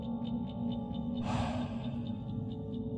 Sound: sigh

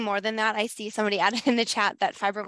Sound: laughs

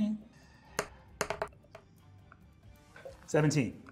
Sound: die rolling

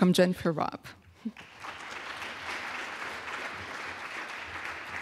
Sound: crowd applauds

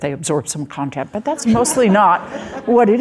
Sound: audience laughing

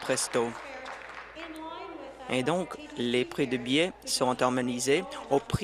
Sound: applause

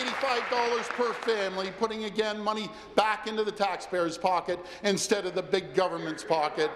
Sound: applause

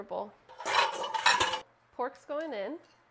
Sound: kitchenware clanking

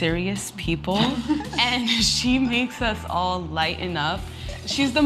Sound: laugh

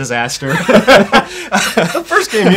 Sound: laughter

